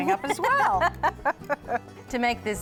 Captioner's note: laughs